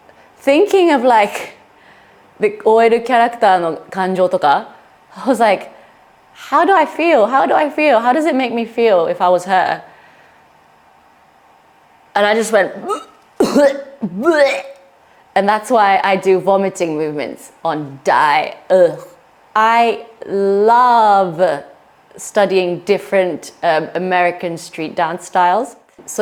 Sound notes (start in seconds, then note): 12.6 vomit, vomit